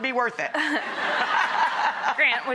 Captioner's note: laughter